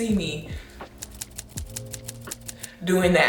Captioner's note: keys clicking